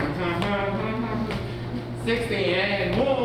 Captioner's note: tarareo